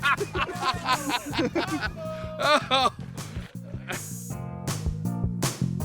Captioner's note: laughing